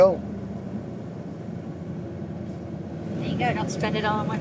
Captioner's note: engine humming